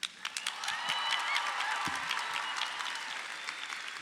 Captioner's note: crowd applauds